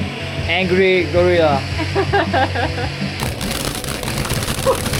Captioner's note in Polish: śmiech